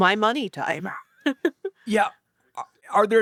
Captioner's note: chuckles